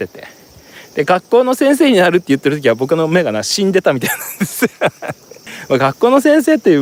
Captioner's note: laughs